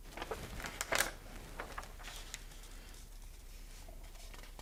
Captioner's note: pages flapping